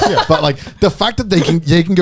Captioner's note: chuckling